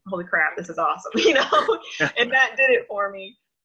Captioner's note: laughs